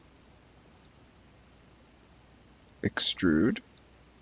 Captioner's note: mouse clicking